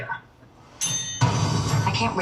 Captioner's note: bell ringing